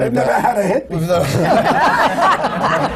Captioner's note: laughter